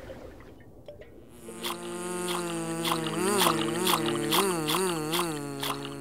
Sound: buzzing

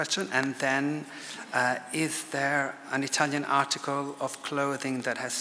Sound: none

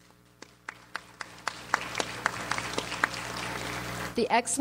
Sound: audience applauds

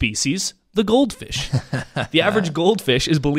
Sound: laughs

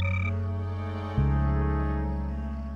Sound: bird caws

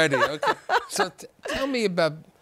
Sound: laughter

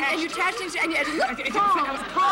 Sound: both stammering

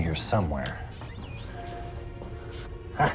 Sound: cupboard Door Creaks Open

